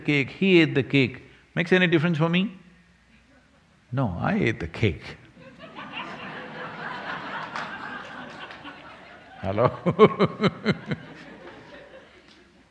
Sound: laughter

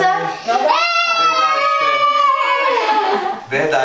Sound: everyone screams excitedly

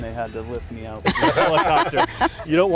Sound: group laughing

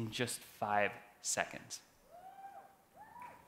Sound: cheering

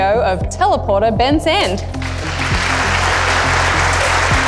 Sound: audience applauding

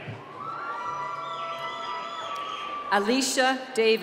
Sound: cheering and whistling

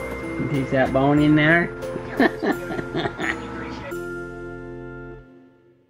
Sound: laughs

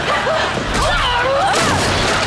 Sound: screaming

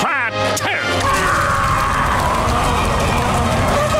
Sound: roaring

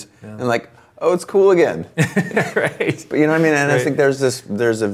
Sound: laughs

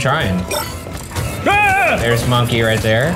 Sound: screams

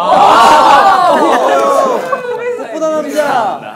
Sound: laughing

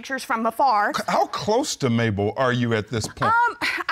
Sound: stammers

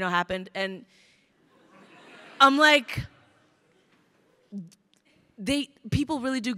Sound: crowd laughing

